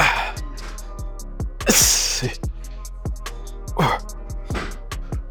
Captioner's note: Jay breathing deeply